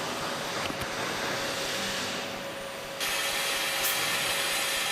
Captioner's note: machinery whirring